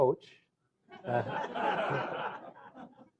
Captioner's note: laughter